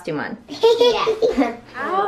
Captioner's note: laughs